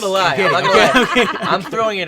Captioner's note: laughs